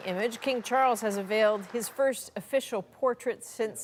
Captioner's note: applause